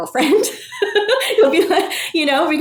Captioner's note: person laughing